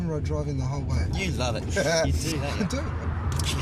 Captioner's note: laughs